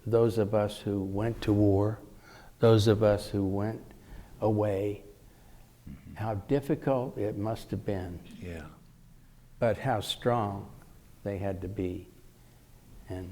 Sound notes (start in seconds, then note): none